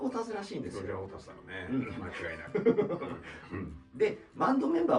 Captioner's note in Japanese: 笑い